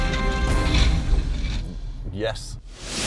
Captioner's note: house falling down